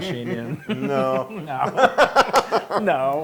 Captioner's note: laugh